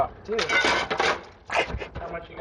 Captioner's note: falling glass; laughing